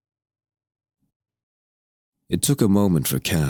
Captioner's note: silence